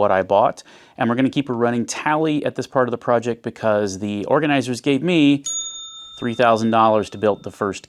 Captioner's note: ding